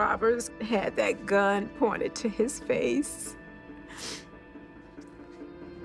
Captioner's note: sobs